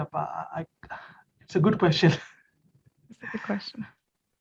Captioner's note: sighs